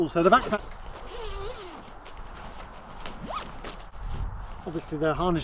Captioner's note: zippers buzzing